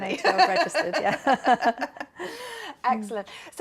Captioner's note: laughter